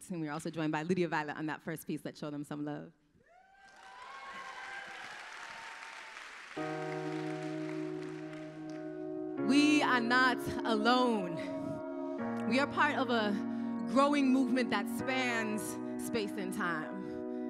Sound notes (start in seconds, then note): 3.5 applause